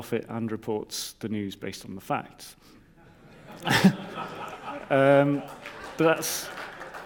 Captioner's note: audience laughs